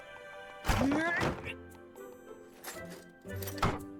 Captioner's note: grunts